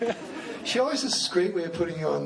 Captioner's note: laughs